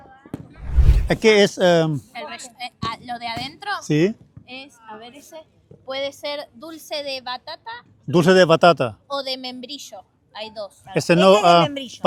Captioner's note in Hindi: स्पेनिश में बोलते हुए